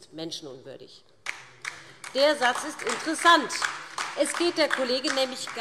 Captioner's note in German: Demonstrativer Beifall DIE LINKE